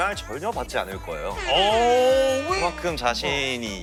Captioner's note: confident